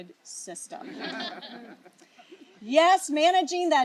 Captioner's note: laughter